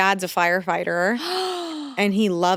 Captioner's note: Vic gasping